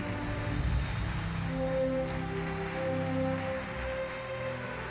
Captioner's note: audience applauding